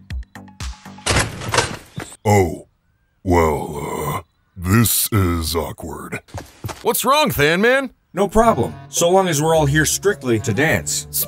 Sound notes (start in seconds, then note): 1.0 door opens